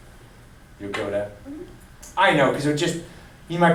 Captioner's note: voiceover